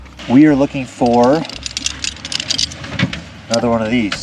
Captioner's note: gear clattering